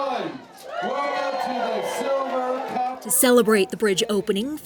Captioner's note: crowd cheers